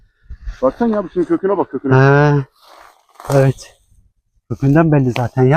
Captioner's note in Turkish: homurdanır